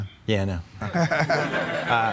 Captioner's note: all laughing